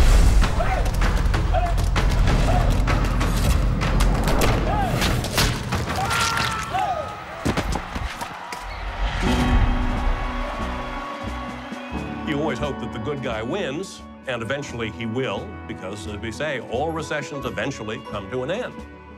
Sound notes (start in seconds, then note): 6.5 man shouting in agony; 7.5 crowd cheering